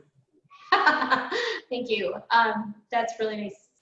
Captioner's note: laughs